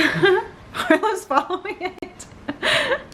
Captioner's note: laughs